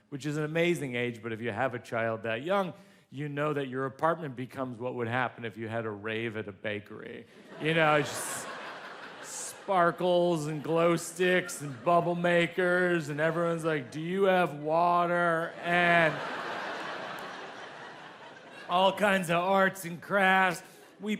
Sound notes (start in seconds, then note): 7.5 audience laughs; 15.6 audience laughs